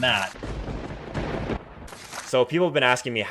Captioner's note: lightning strike